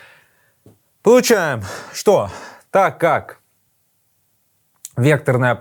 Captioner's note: sighs